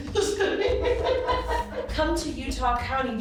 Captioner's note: laughing